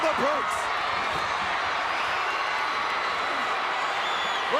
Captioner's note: crowd cheering